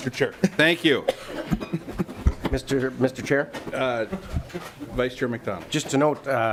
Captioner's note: lauging